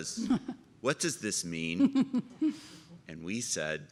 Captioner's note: chuckles